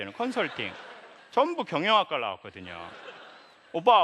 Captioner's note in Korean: 웃음